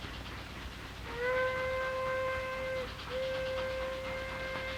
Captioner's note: train whistle sounding